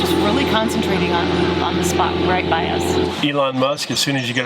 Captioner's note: lawn mower revving